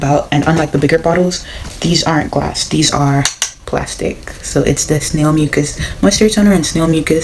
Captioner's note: plastic hitting plastic